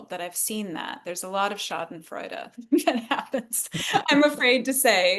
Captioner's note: laughs